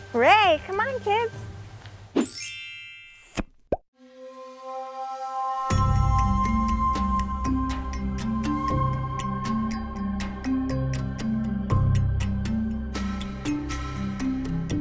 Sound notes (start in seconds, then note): 2.3 twinkling; 3.3 popping